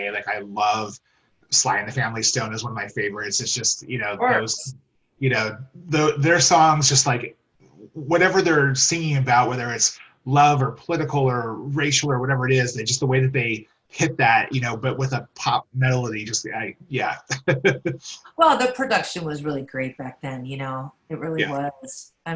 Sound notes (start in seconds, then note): 17.4 laughs